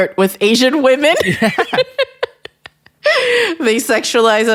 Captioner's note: laughs